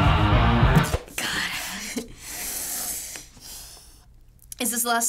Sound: chuckling

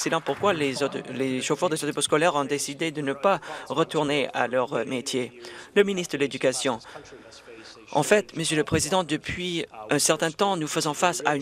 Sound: some Applause

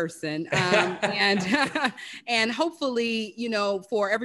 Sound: laugh

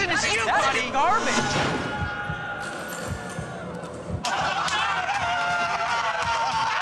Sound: cheering

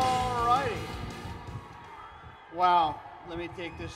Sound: crowd cheers

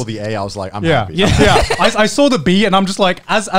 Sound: all laugh

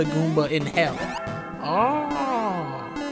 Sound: bell ringing

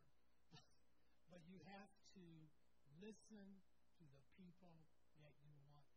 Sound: laughs

